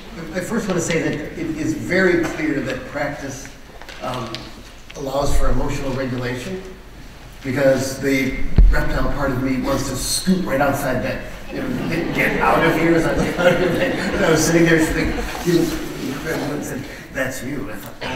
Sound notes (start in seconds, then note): 11.3 audience laughter